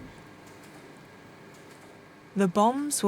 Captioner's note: clicking softly